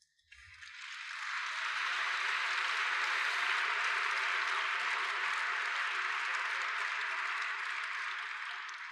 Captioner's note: applause